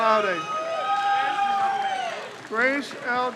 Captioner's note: crowd cheers